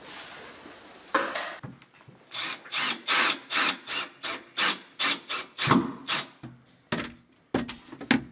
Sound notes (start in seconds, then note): 2.2 drilling